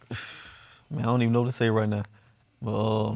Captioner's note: sighs